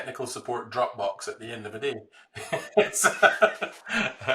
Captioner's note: laughs